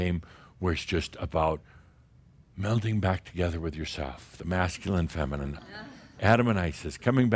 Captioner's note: some chuckles